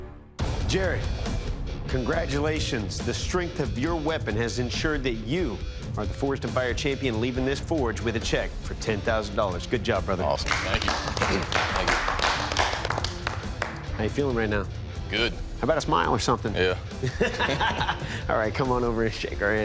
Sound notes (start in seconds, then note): 10.3 applause